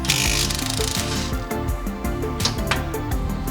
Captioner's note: impact gun whirring; upbeat music